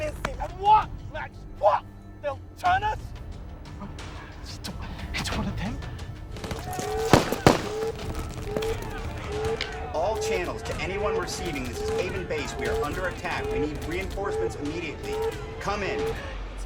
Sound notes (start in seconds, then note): 6.3 gunfire pops; 6.9 alarm blaring